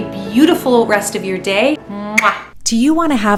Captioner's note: lips smack